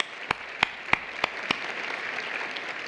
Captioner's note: applause